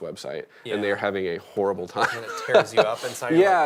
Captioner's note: laughing